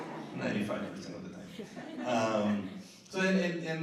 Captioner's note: laughter